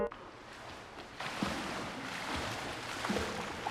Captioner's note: water splashing